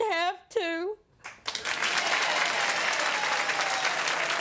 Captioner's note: applauding